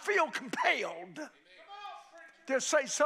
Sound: crowd shouting

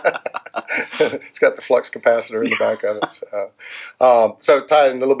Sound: laughing; laughing

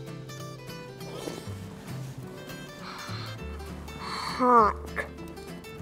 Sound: slurps

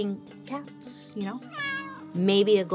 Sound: cat meows

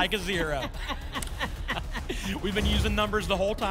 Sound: laughter

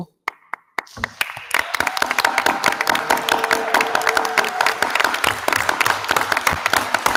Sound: attendees applauding; attendees cheering

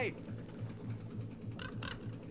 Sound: crow crackles

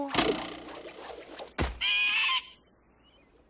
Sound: bird cries

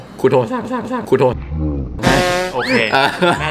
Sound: voice cracks

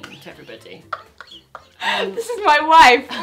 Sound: laughs

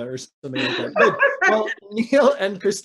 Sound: laughing

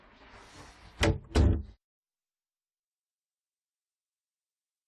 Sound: door closes

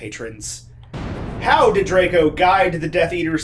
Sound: lightning crashing

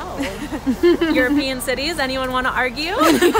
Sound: laugh; all laugh

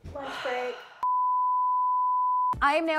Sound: machine beeping

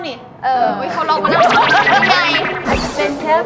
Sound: can’t stop laughing

